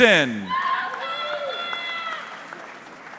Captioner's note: audience member shouting indistinctly; audience clapping